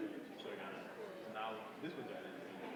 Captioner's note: indistinguishable chatter